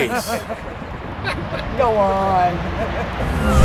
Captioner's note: laughs